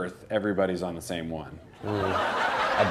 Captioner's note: laughter